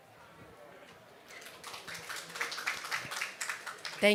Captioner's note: applause